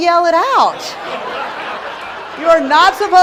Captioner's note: laughing